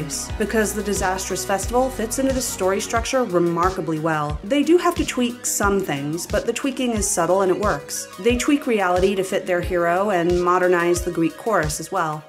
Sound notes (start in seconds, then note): none